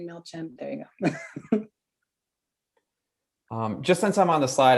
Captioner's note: laughs